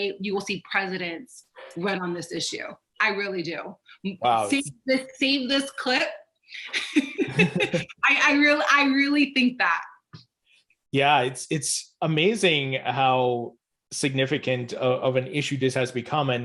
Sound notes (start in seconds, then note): 6.6 laughing